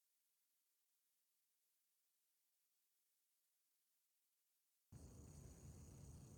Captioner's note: silence